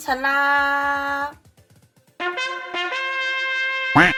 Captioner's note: horn